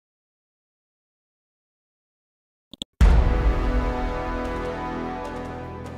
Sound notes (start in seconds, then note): 2.7 mouse clicks; 3.0 dramatic chord